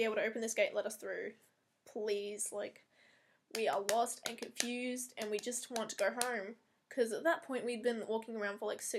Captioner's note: clapping between each word